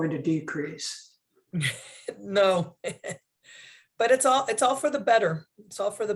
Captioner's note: laughter